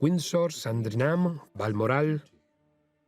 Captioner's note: voiceover